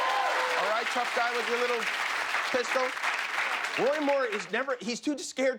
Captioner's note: cheers and applause